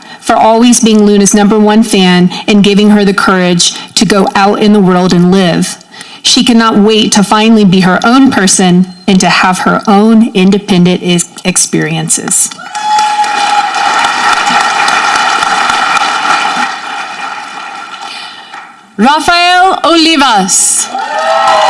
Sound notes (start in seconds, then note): 12.6 audience clapping; 20.8 audience cheering